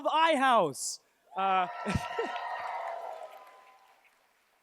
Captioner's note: cheers, applause